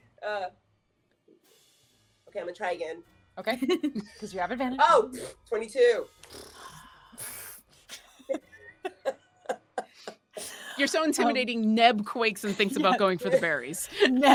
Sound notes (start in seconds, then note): 6.2 scoffs; 7.9 laughing